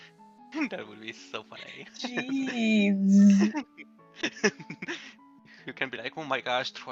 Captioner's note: laughs; laughs more